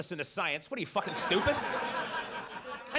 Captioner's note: audience laughs